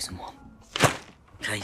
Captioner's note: thwap